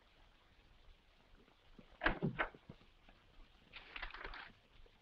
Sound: door clicks open

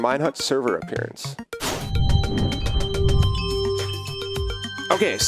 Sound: upbeat music; whooshing

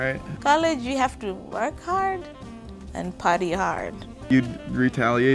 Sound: voiceover

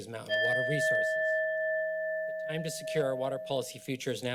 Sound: bell sound

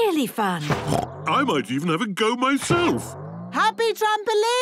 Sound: snorts

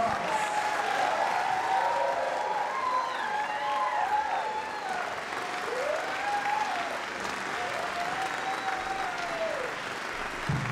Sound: applause

